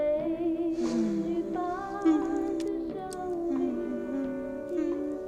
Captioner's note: continues humming along